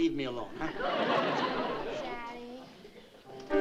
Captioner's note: laughter; piano playing